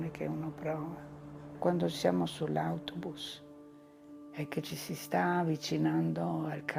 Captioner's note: continues speaking in foreign language